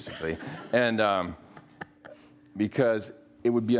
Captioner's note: audience laughs